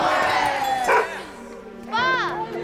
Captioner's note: barking